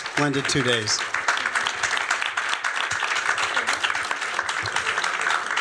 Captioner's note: audience clapping